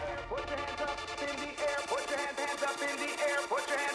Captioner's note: cheering and applauding